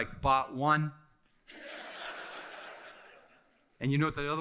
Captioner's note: audience laughing